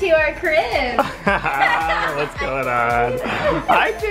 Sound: all laughing

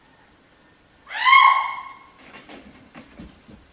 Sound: horrific scream

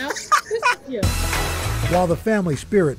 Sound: laughter

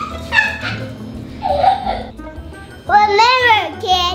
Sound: laughing

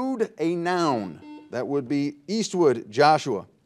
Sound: buzzer dings

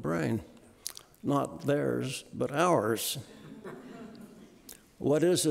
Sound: audience laughing

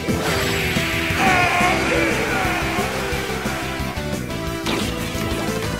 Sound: echo

